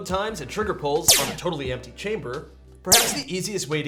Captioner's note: laser fires; laser fires